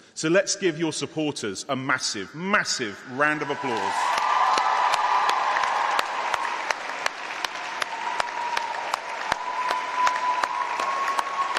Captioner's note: applause